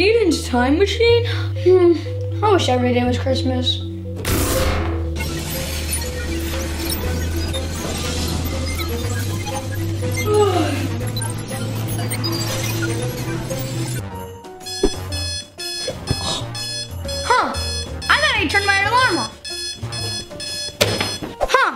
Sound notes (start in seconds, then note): 5.0 mechanical sounds; 9.4 yawn; 14.6 alarm clock